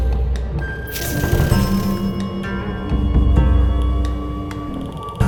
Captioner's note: bell dinging